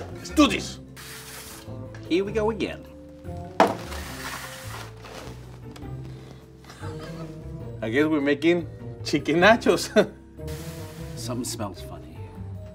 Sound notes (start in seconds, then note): 6.7 laughs